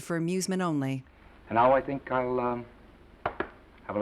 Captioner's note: loud patting